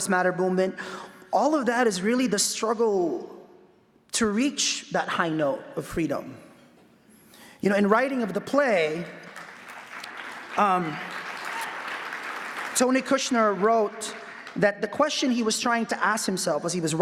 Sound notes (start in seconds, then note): 9.2 claps